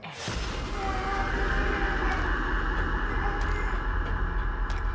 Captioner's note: Malik yelling; eerie music